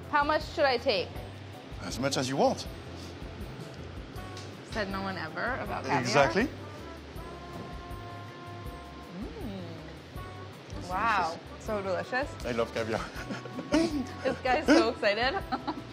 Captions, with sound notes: - How much should I take? - As much as you want. - Said no one ever about caviar. - Exactly. - Mm, wow, so delicious. - I love caviar [laughs]. - This guy's so excited.